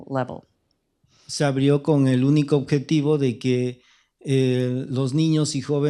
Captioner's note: speaking spanish